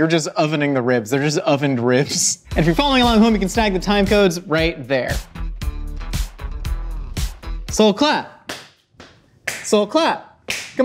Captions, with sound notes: We're just ovening the ribs. They're just ovened ribs. If you're following along at home, you can stack the time codes right there. (upbeat music) So clap. (clapping) So clap.